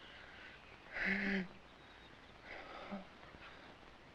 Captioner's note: Barney moans